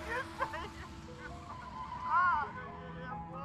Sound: Mama crying

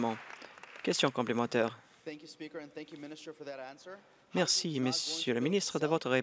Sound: applause

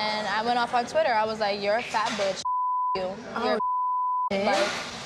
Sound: beep

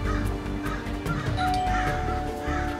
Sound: doorbell

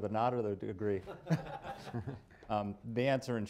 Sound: laughter

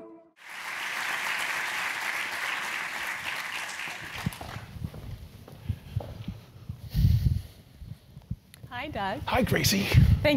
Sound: applause

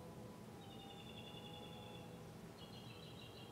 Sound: birds chirping

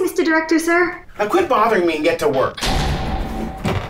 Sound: door slam

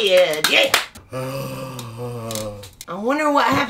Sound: zombie moan

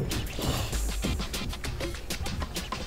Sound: Hazel hisses at Jordan

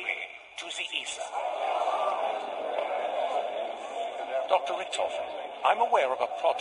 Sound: loud conversing again

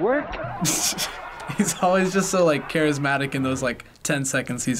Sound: snickers

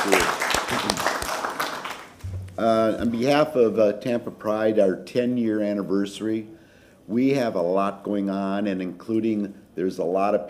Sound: applause

